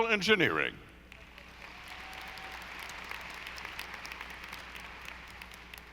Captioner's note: audience applauding